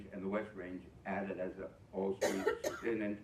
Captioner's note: ?coughing